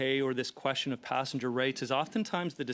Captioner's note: speaking French